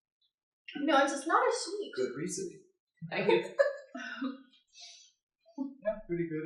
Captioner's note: laughter